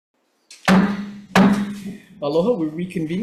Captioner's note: gavel clanking